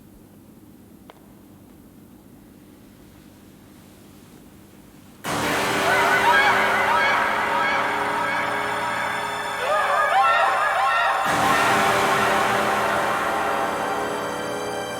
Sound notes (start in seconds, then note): 5.2 dramatic music; 5.4 Cathy screaming